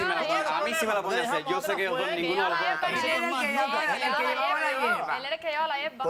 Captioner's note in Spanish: Hablan al unísono